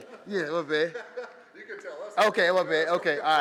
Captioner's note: laughing